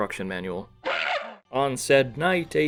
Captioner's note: gorilla cry